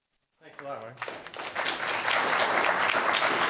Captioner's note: applause